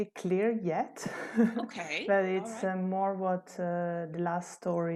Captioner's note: laughter